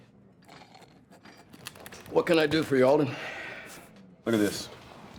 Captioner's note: slurping